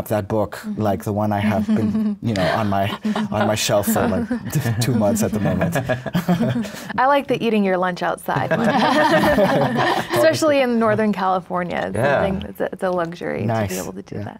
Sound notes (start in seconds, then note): 5.7 everyone laughs; 8.4 everyone laughs